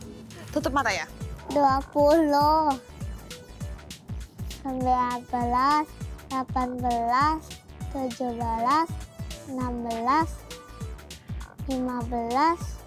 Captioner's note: counting